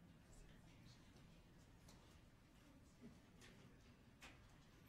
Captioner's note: people chattering faintly